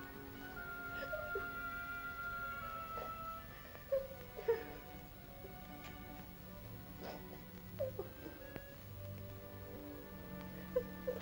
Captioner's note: soft ominous music; sobs